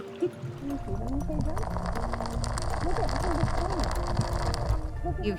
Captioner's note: chuckles; rattling gently